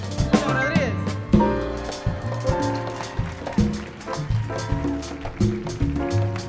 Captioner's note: audience cheering and applauding